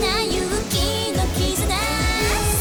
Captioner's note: none